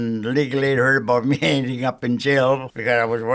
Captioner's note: chuckling